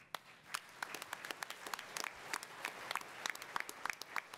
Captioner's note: attendees applauding